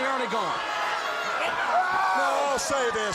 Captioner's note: crowd cheering